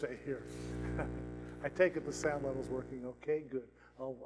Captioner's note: laughs